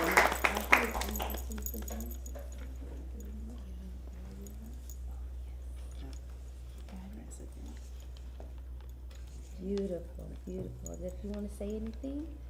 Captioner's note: applause